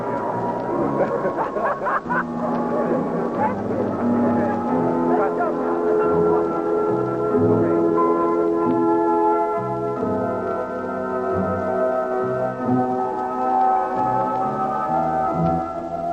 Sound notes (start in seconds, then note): 1.0 laughs